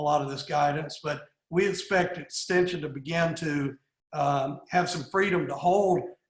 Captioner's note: none